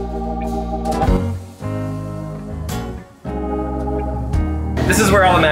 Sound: grill sizzling

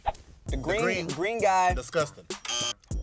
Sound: buzzer beeps

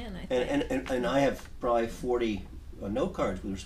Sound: voiceover

